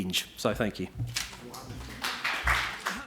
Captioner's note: audience clapping